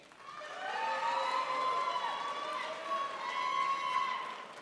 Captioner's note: crowd applauds